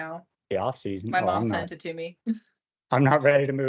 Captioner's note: chuckles